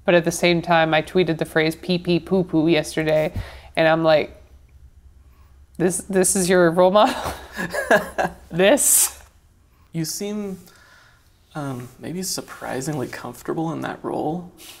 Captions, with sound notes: But at the same time, I tweeted the phrase, "Pee-pee, poo-poo," yesterday and I'm, like, this is your role model? (laughs) - (laughs) - This? - You seem maybe surprisingly comfortable in that role.